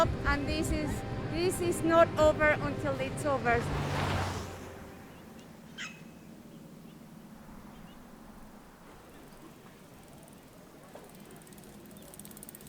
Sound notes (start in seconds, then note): 3.9 car engine fading away; 6.3 birds chirping; 9.4 bicycle passing